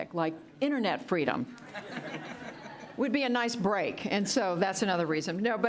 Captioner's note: laughter